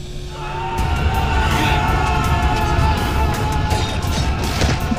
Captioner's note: dramatic music; everyone screaming; metal clinking